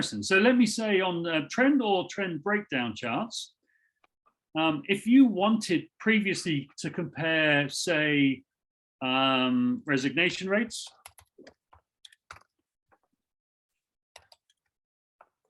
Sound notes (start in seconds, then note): 12.0 keyboard keys clicking